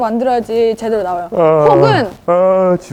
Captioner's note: yawn~~